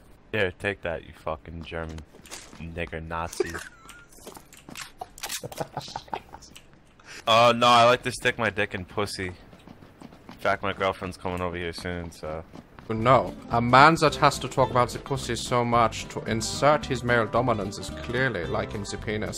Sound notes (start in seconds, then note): 4.9 quietly